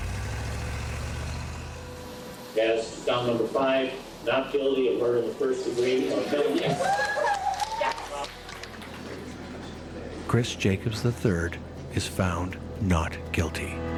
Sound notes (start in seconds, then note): 0.0 car engine whirring; 5.9 people cheering